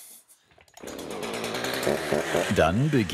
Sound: the chainsaw rattles

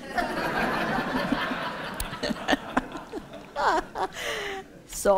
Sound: laughter

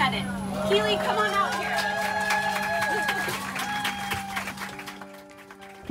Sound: passengers cheering

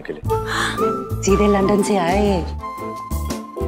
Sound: gasps

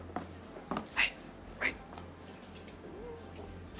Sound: whispers

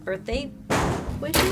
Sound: clang

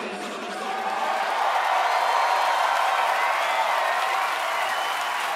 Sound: audience cheering

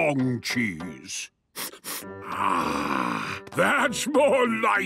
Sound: sniffs

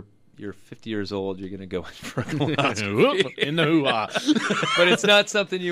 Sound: both laugh

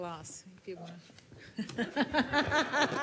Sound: laughs

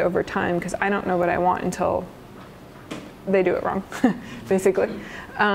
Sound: chuckles

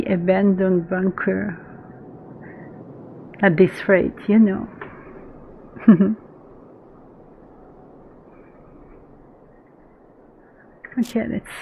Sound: laughs

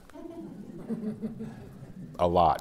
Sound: slight laughter

